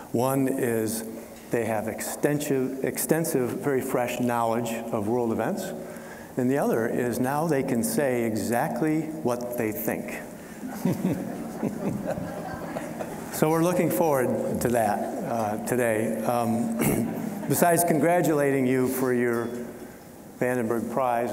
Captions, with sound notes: One is they have extensive, very fresh knowledge of world events, and the other is now they can say exactly what they think. (all chuckling) So, we're looking forward to that today. Besides congratulating you for your Vandenberg Prize,